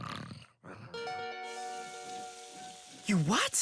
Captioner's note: snores